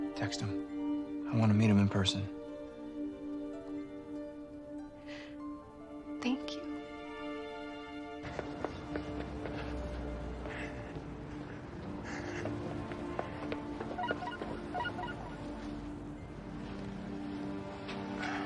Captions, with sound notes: If he's an important I want to meet him in person. - Thank you. (panting) (phone chiming) (sighs)